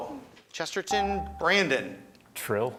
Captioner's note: buzzer chimes